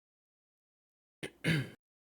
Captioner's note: clears throat